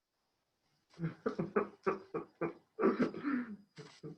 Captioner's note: laughs